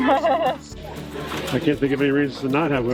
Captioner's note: laughing